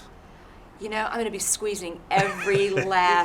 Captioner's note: chuckles